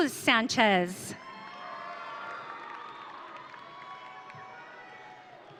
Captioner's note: audience cheering